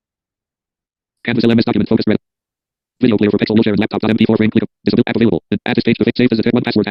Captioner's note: screen reader narrating extremely rapidly